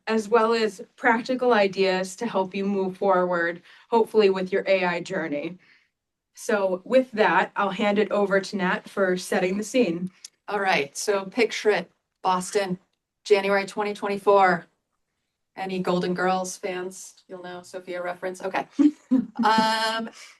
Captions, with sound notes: as well as practical ideas to help you move forward, hopefully, with your AI journey. So with that, I'll hand it over to Nat for setting the scene. All right, so picture it-- Boston, January 2024. Any Golden Girls fans, you'll know a Sophia reference. OK. [LAUGHS]